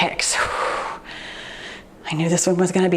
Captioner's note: exhales deeply